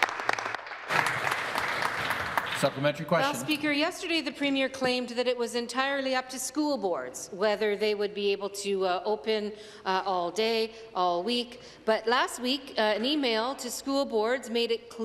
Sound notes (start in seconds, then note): 3.8 applause